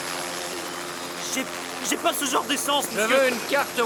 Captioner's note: stuttering